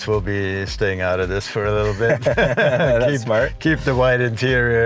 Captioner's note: chuckles